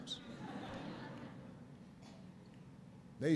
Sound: laughter

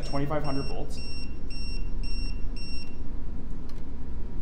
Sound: meter beeping

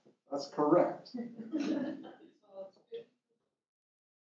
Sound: laugh

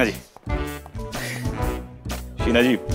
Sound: snickers

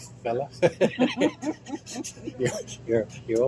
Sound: laughing

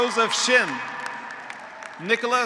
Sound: graduates applauding; graduates cheering

